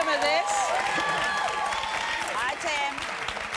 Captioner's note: applause